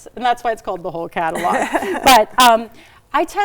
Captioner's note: laughs